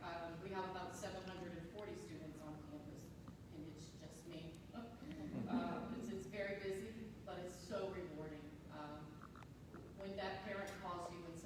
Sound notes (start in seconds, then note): 5.2 soft laughter